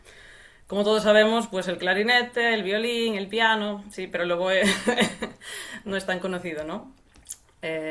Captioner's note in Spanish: risas